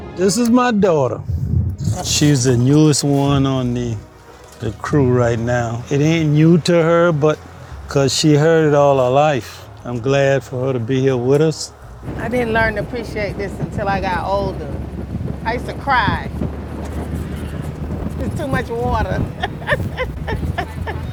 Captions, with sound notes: - This is my daughter, she's the newest one on the the crew right now. It ain't new to her 'cause she heard it all her life. I'm glad for her to be here with us. - I didn't learn to appreciate this until I got older. I used to cry. (laughs) It's too much water. (laughs)